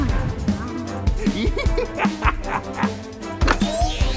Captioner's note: laughing